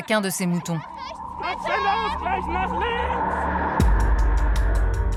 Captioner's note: German spoken audio